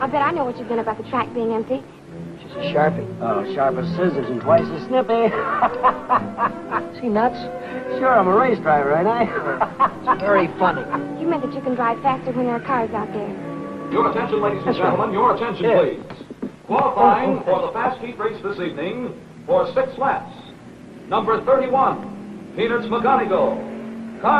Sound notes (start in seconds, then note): 5.2 happy laughing